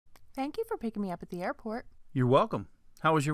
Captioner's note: man's voice